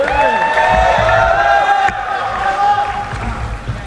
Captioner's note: applauding